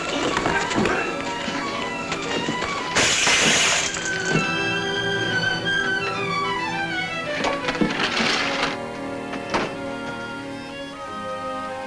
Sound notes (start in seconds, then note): 0.4 tense music; 3.3 bottle shatters; 4.8 dramatic music